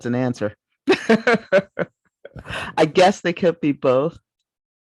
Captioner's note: laughs